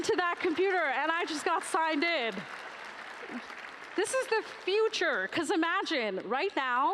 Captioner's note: applause